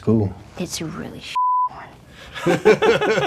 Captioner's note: beepy